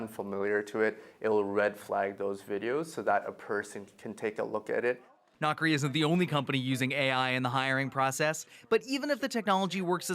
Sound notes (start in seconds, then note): none